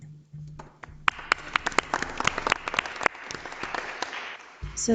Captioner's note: audience applauds